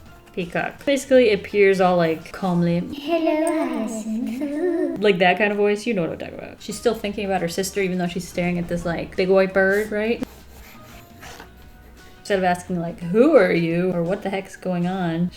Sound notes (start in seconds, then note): 2.5 echoed voice